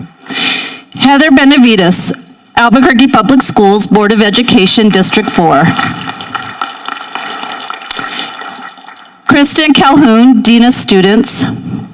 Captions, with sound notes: Heather Benavides, Albuquerque Public Schools Board of Education, District 4. (people applauding) Cristin Calhoun, Dean of Students.